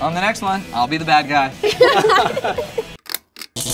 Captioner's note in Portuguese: Risos